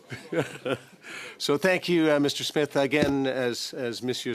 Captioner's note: laughter